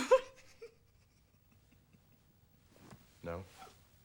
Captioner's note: laughs